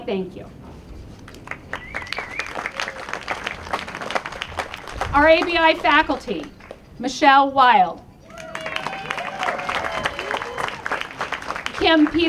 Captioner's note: applause